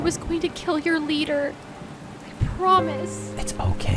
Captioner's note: rain splashing